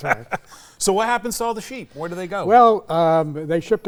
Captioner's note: laughs